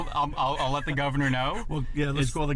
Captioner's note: laughs